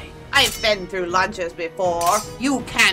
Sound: metal clanging

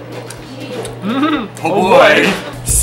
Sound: laughs

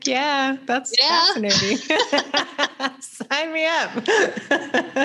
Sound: both laugh

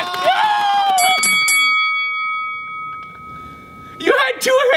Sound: bell dinging

